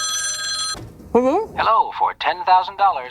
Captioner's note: phone rings; on phone